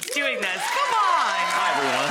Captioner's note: audience cheers